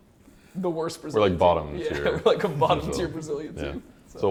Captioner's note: laughs